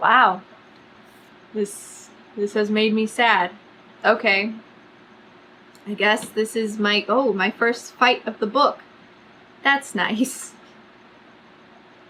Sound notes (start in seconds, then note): none